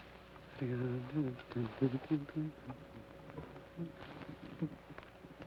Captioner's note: Joshua hums melodically